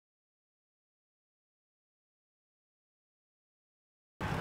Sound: silence

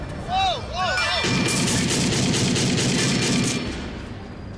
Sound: gunshots

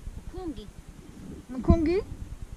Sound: speaks Swahili

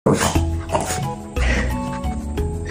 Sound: dog huffing

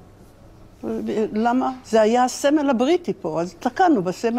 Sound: speaking hebrew

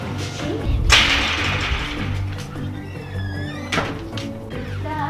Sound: gate closes noisily

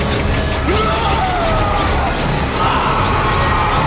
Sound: screaming

